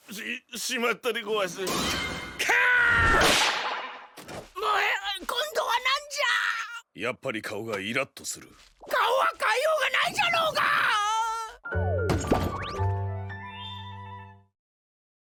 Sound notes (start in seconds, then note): 2.4 shouts